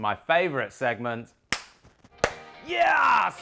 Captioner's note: hands clapping